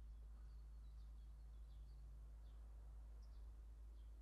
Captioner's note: birds chirping